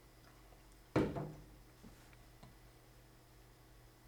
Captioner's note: coffee cup clangs on table